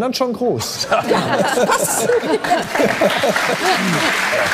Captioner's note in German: Gelächter